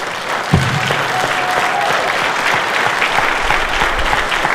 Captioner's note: cheers and applause